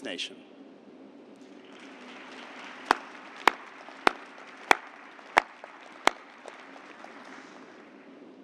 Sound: applause

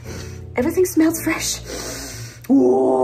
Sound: inhales

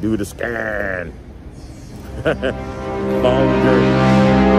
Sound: laughing

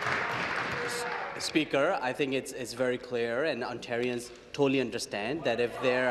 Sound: applause

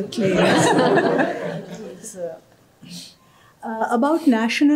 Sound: laughter

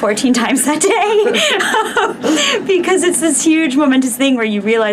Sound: laughing

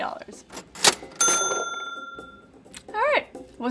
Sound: cash register rings

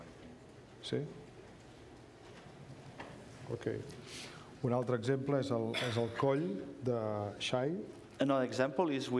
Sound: speaking catalan

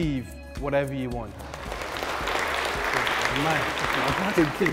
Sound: applause

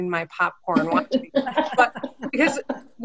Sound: everyone laughing

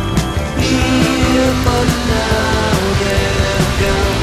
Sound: humming

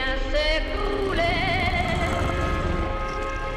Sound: creature purring

